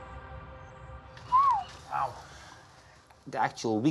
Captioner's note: whistles